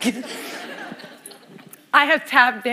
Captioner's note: laughter